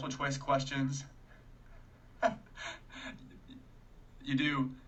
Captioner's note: laughing